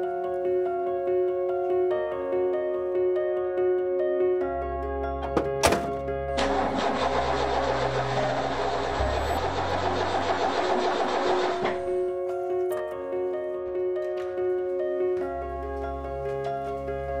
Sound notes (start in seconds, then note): 0.2 uplifting music plays; 5.3 door slams; 6.3 engine stutters; 12.5 uplifting music continues